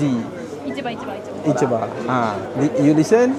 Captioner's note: speaking Japanese